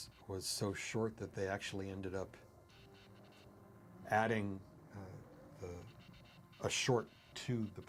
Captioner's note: beasts growling